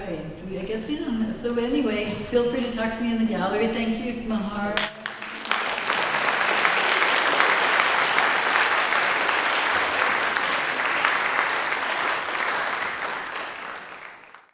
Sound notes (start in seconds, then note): 4.7 applause